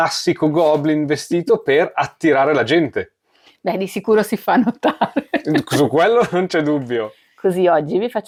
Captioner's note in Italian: risate